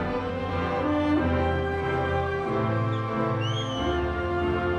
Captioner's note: audience continues cheering